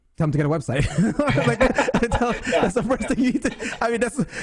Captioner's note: laughs